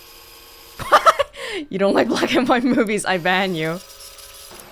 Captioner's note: chuckles